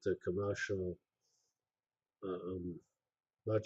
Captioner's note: pause